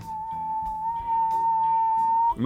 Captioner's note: whistles flatly